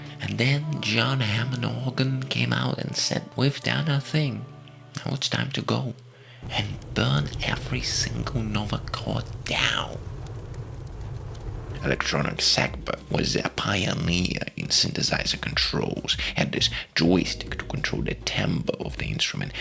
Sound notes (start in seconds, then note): 10.1 the sounds of fire